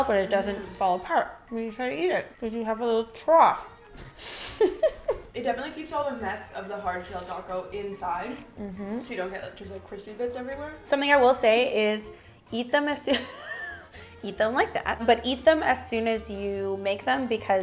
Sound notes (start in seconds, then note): 4.2 laughs